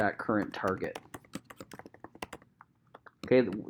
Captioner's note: keyboard clicking